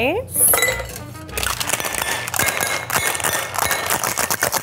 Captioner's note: drink sloshing